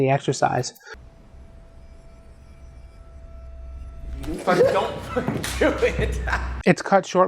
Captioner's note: laughs